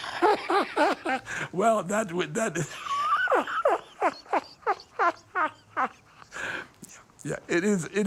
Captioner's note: laughing; laughing